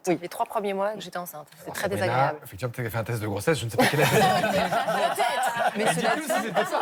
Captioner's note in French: rires